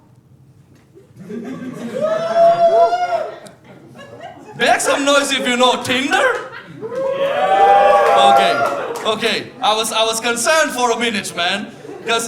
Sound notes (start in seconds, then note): 1.0 laughter; 6.1 cheering